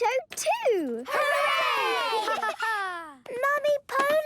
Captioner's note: laughter